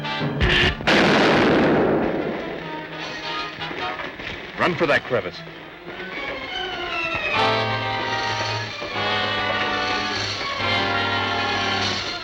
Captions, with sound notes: (gun buzzes) (explosion booms) - Run for that crevice.